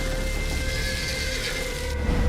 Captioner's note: neighing